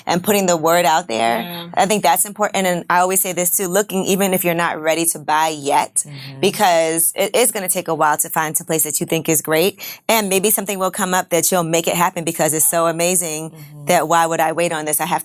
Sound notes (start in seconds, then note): none